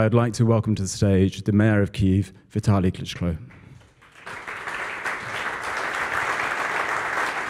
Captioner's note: applause